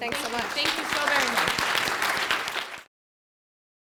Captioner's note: applause